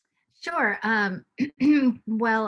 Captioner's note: clears throat